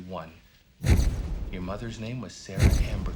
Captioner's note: camera clicks